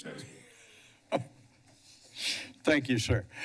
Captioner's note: laughs